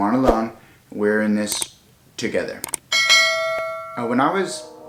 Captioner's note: bell dinging